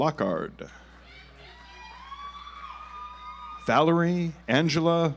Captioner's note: audience applauds